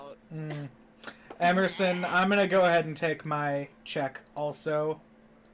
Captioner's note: makes an ugly noise of delight